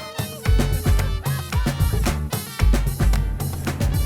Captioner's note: laughing